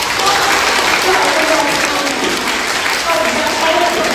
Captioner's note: applause